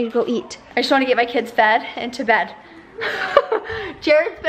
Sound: laughs

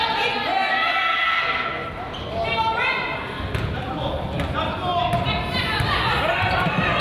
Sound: crowd chatters; coaches yell

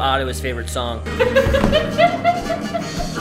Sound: laughing

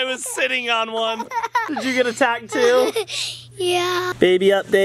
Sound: laughs

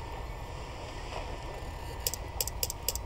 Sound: computer blipping

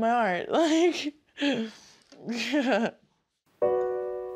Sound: laughs

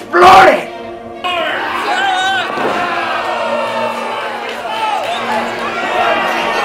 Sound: yelling; audience booing

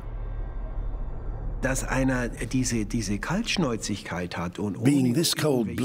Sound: speaking German

